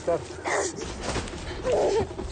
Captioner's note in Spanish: Quejidos